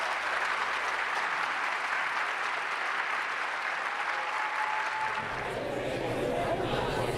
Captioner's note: continuous crowd murmurs and ramblings